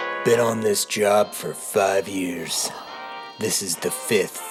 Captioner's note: voice, but like a noir version